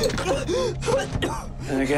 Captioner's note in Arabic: يسعل